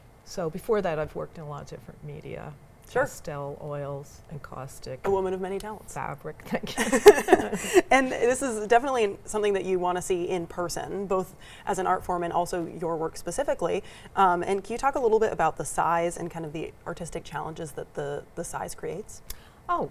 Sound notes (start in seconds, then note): 6.7 pair laughs; 6.7 laughs